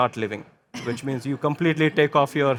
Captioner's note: chuckling